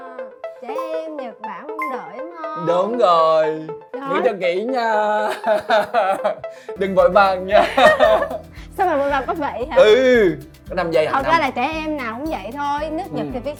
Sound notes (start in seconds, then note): 5.2 laugh